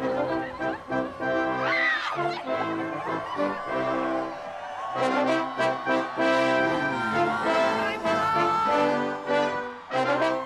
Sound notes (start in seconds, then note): 0.1 laughing; 1.9 screaming and cheering; 6.0 cheering